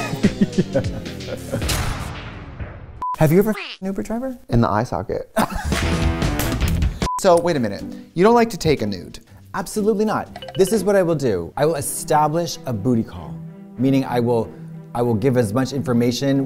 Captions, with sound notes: Yeah. Yeah. [laughs] -Have you ever fucked an Uber driver? -In the eye socket. [laughter] So wait a minute. You don't like to take a nude. Absolutely not. This is what I will do. I will establish a booty call, meaning I will--I will give as much information